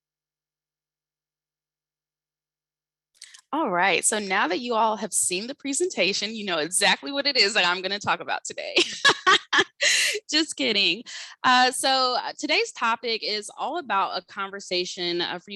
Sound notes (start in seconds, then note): 8.8 laughing